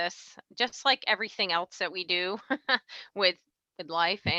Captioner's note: laughs